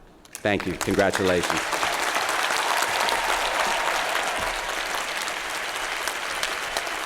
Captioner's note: applause